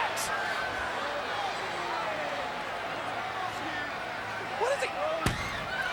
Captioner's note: crowd clamors